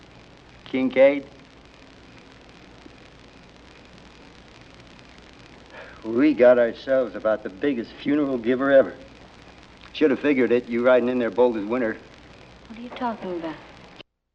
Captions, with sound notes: Kinkaid. [sighs] We got ourselves about the biggest funeral-giver ever. Shoulda figured it. You ridin' in there, bold as winter. What are you talking about?